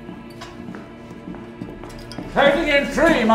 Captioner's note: Chef making heavy footfalls